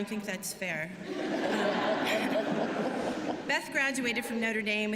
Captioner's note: laughter